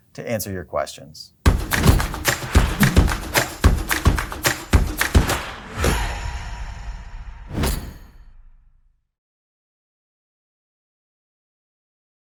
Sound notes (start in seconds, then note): 1.4 upbeat music; 7.7 whoosh